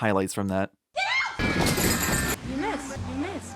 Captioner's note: children screaming; crashing